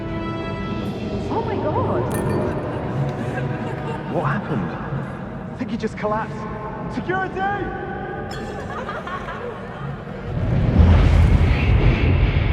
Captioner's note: laughter